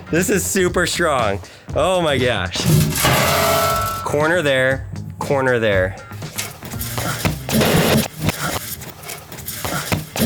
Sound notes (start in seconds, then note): 2.6 metal box clanging; 5.9 coins shaking in the box